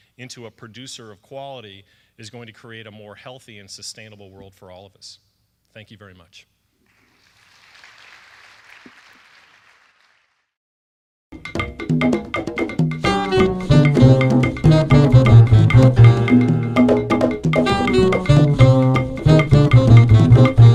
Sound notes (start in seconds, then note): 6.9 audience applauds; 11.6 upbeat jazz music